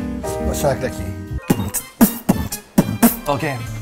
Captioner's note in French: norman fait du beatbox